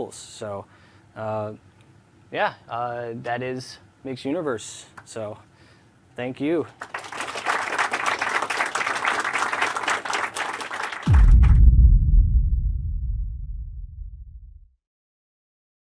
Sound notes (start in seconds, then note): 6.7 applause; 11.0 audio logo